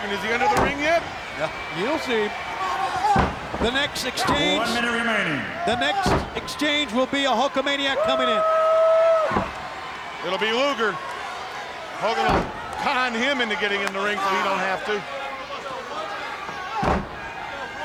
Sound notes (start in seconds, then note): 0.5 body slamming; 8.0 wrestler cheering; 16.8 body slamming